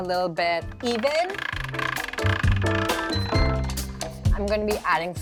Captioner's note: pasta machine clunking